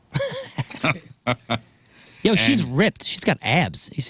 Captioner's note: laughing